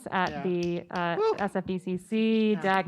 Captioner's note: none